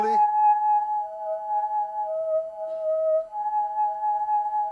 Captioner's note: tube hums two tones